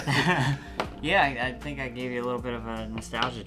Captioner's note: laughs